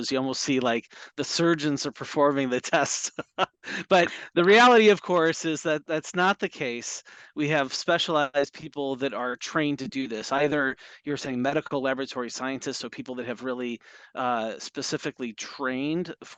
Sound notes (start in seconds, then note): 2.7 laughs